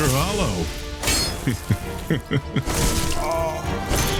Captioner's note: laughs